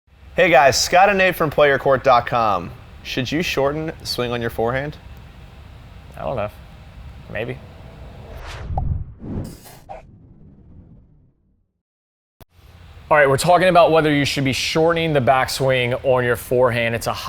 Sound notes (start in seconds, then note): 9.0 pop